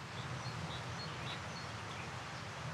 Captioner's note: birds chirping